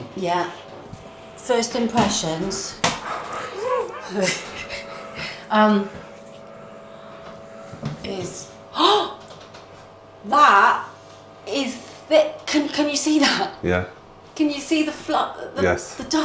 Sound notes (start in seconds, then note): 6.0 shock